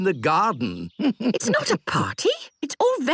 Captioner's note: chuckles